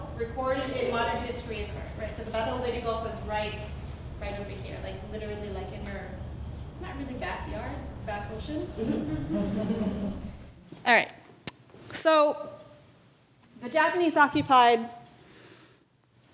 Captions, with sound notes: recorded in modern history occurred. So the Battle of Leyte Gulf was right over here like literally right in here, not really backyard, back ocean. (audience giggling) All right, so the Japanese occupied the Philippines.